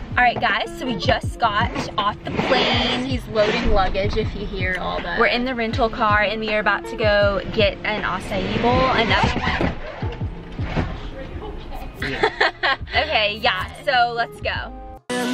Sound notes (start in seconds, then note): 9.5 suitcase bangs; 11.1 laughs